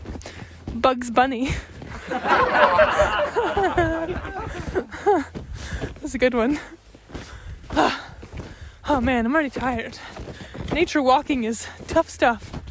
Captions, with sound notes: Bugs Bunny. (laughs) (audience laughs) That's a good one. Oh man, I'm already tired. Nature walking is tough stuff.